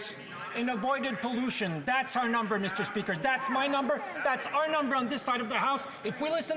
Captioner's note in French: voix de l'interprète